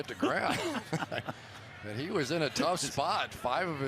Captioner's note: laughs